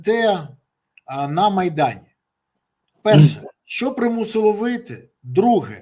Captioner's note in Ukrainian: прочищення горла